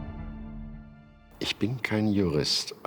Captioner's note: speaking German